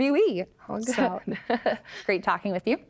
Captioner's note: all laugh